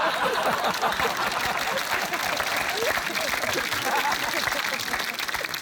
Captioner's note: laughter; applause